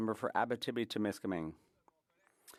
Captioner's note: speaking French